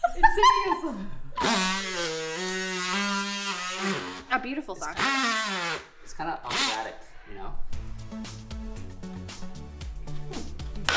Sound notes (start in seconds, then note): 1.4 saw humming; 7.8 upbeat music; 10.7 wood thuds